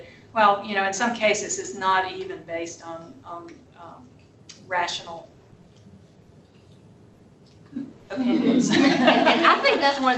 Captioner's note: laughter